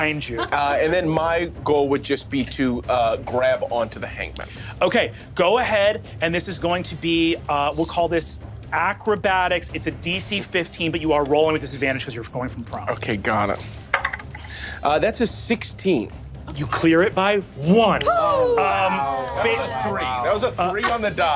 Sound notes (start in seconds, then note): 13.6 dice rolling